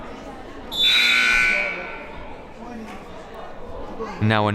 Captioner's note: buzzer blares